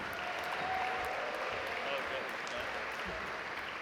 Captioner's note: audience applaud